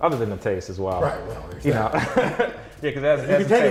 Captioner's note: laughs